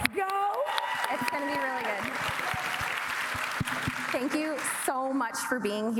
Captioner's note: cheers and applause